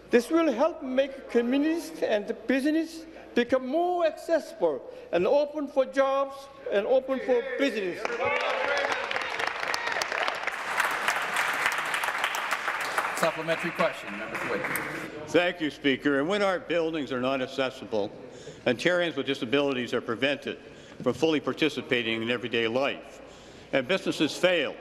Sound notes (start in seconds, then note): 11.4 applause